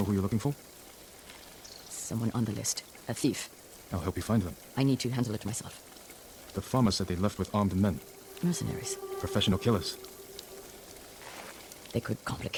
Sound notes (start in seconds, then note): 2.2 thunder rumbling